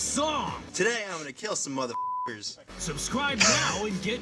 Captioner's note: beep